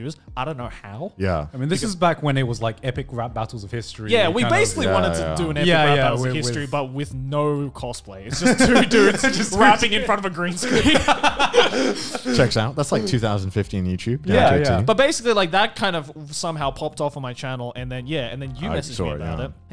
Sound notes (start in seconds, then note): 8.3 laughs; 10.6 laughing loudly